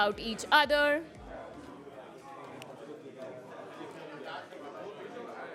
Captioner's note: chatter